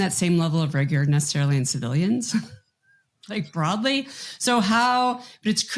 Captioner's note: chuckles